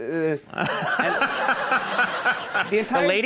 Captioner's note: audience laughs